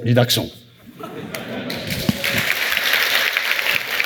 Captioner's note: laughter; applause